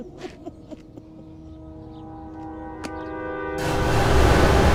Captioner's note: people laughing; eerie music